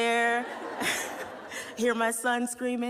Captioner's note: laughter